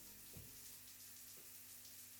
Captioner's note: shower water running; thump